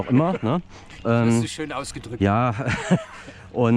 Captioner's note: laughs